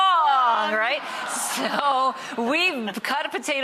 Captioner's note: laughing